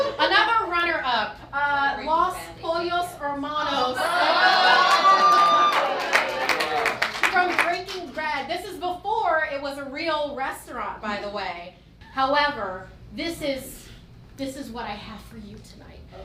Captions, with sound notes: Another runner up, Los Pollos Hermanos. (cheering) From Breaking Bad, this is before it was a real restaurant by the way. However, this is what I have for you tonight.